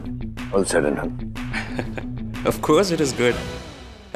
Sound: laughs

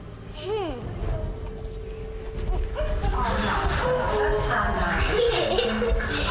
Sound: kids playing wildly

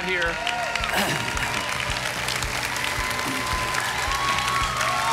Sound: audience cheering

